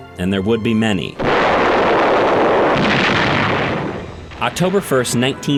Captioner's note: explosions